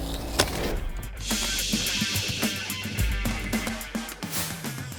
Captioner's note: air hissing